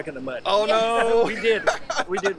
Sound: laughing

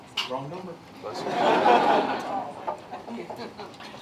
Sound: laughter

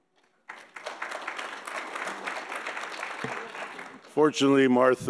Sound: audience applauds

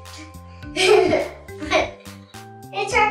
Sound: giggling

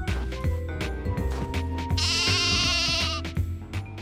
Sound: bleats

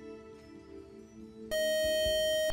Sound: time-out buzzer

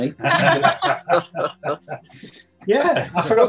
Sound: laughing

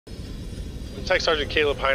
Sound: propellor rotating quickly

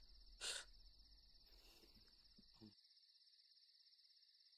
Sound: Shawn scoffing

